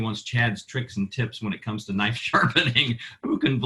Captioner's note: laughing